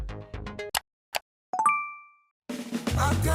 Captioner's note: fast-paced music; click